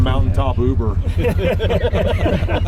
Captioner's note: laughing